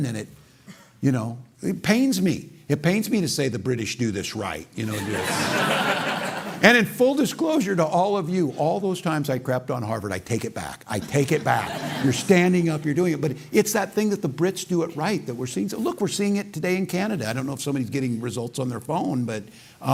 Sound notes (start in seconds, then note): 4.9 laughter